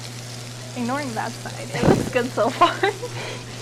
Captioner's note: chuckles